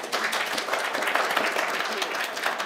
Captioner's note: applause